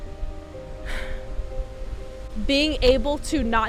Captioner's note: interviewee exhaling